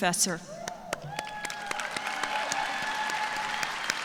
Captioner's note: cheers and applause